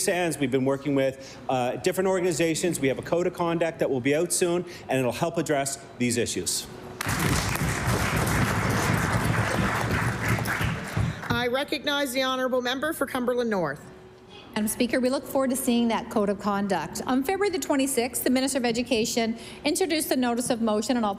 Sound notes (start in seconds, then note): 10.5 applause